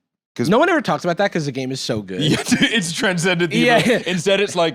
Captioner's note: laughs